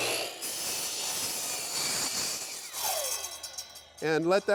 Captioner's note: saw whirring loudly